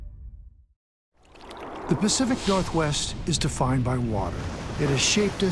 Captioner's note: water splashing